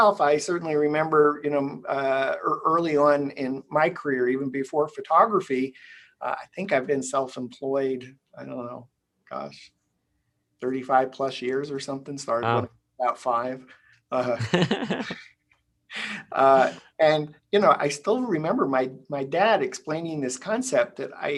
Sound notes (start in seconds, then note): 14.3 both laughing